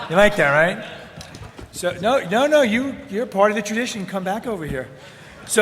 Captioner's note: laughter